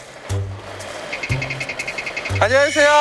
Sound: running

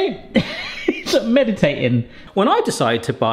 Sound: laughter

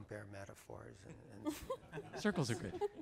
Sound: laughing

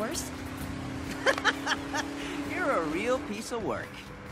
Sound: laughing

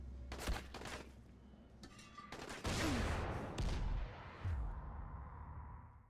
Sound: crashing and gunshots

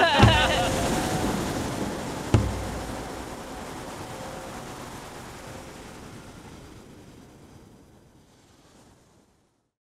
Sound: laughter; waves

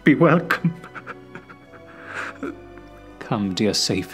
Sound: sobs

